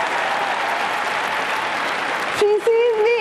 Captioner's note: cheering and applause